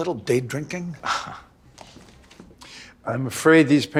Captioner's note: Chuck chuckles